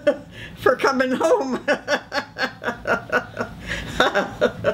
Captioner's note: laughing